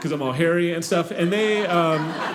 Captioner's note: audience laughing